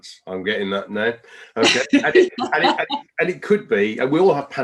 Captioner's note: laughs